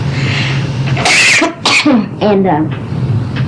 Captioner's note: cough